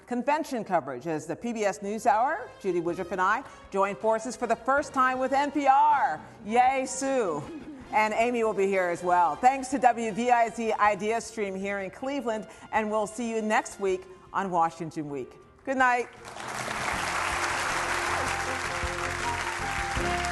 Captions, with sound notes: convention coverage, as the PBS NewsHour, Judy Woodruff and I, join forces for the first time with NPR. Yay, Sue. (Laughter.) And Amy will be here as well. Thanks to WDIZ Ideastream here in Cleveland, and we’ll see you next week on Washington Week. Good night. (Applause.)